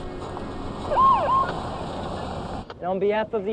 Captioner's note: police siren wailing